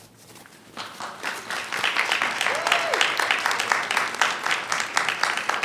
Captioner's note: audience applauding